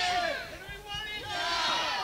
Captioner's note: crowd